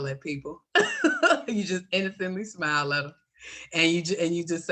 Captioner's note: laughs